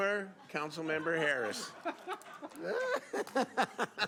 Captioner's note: laughter